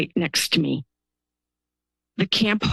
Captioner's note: pause